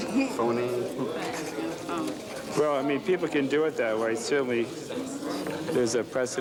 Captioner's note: pen scratching